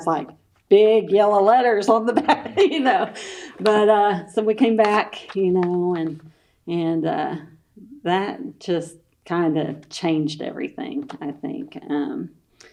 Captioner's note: laughs